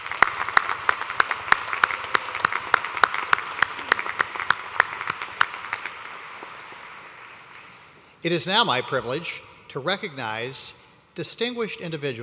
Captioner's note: applause